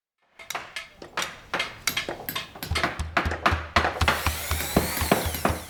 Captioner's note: construction noises